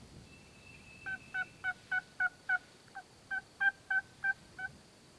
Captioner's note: turkey call